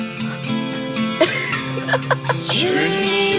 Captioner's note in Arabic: يضحك